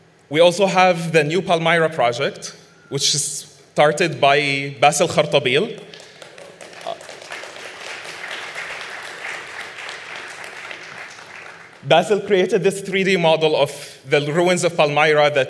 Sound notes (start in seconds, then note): 5.7 audience claps